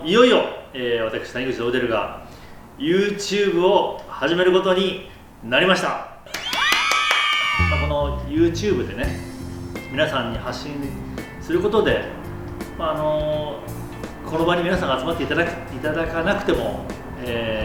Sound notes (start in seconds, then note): 6.3 claps